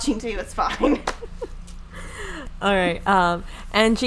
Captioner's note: laughing